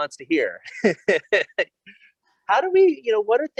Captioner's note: laughs